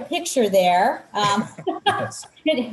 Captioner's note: laughter